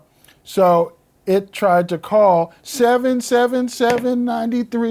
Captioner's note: sing-songy